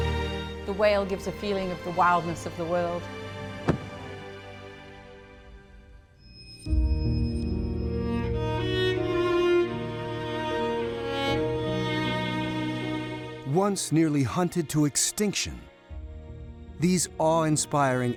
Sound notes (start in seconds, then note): 3.3 whale thumping; 6.2 somber music